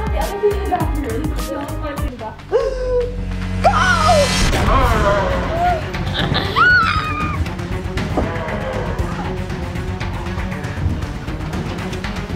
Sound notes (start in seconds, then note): 5.6 growling; 6.8 dramatic music